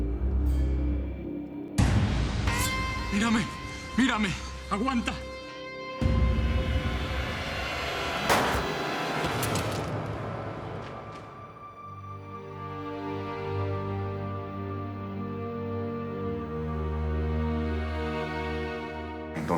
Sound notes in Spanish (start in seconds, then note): 10.6 Disparo